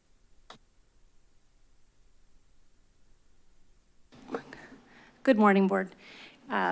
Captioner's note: silence